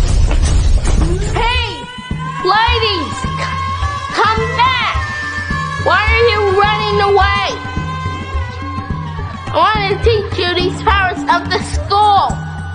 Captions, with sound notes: Hey! Ladies! [girls screaming] Come back! Why are you running away? I wanna teach you these powers of the school.